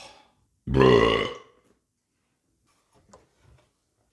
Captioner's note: burp!; oaaah